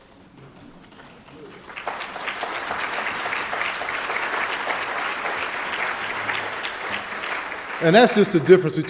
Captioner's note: applause